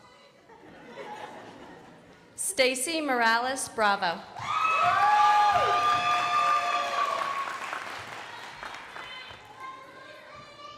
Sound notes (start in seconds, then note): 4.5 crowd applauding